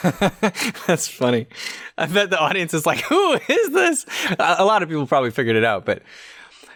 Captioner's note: chuckles